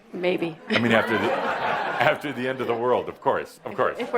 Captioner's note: laughter